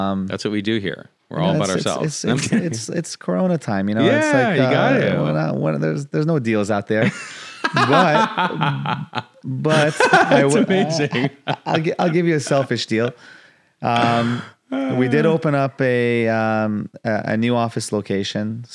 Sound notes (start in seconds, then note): 7.0 laughs; 14.9 laughs